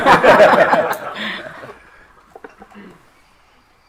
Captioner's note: all laughing